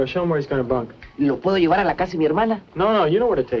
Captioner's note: speaking spanish